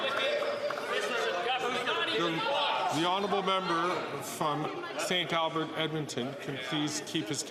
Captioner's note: applause